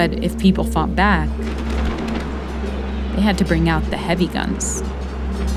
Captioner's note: soundbite of gunshots